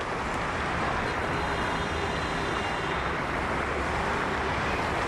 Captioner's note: cars honking